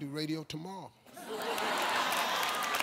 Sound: crowd laughing; applause

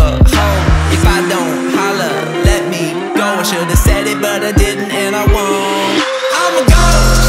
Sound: poof

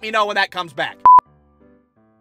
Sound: beep!

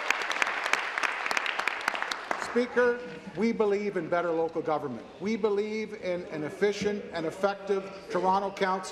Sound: applause

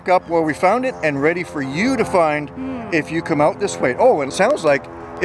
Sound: airplane flying overhead

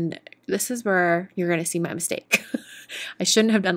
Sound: chuckles

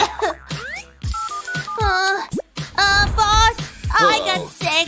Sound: coughs

